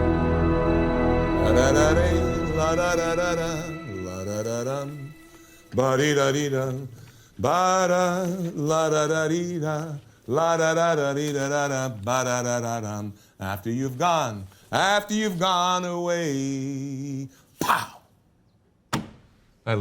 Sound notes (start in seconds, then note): 0.0 soft music; 1.4 Jerry humming